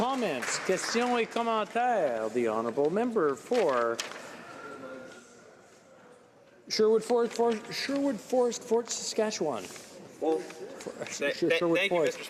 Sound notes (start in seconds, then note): 4.6 speaking in french